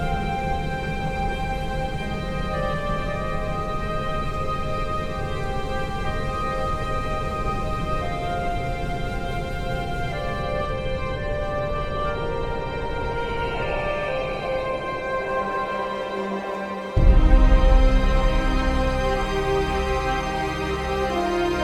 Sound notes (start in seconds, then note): 13.4 eagle crying distantly; 18.6 majestic music